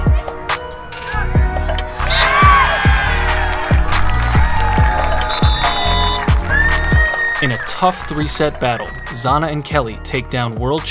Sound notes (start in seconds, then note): 1.9 cheering